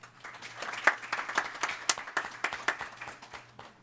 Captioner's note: clapping